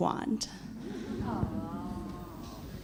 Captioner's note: laughs